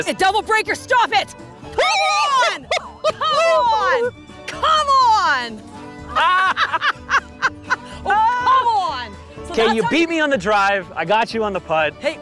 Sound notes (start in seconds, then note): 1.9 screaming and hooting; 6.0 both laughing